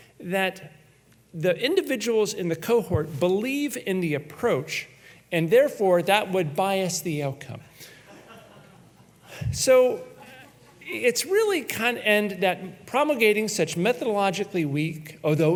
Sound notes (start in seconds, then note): 8.0 audience laughs